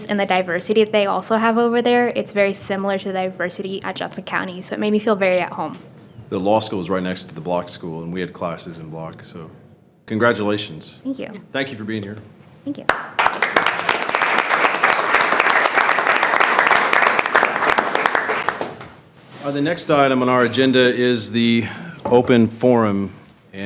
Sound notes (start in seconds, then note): 12.8 attendees clapping